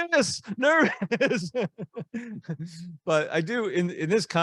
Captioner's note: laughing